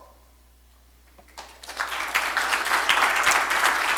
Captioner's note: applause